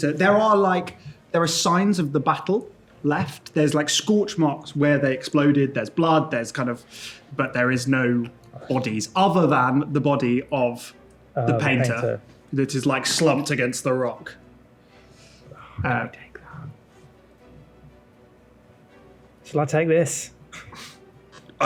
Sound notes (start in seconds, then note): 15.8 whispers